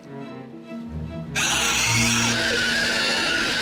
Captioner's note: shrieking